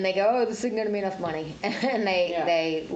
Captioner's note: laughs